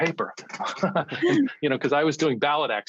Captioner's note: laughter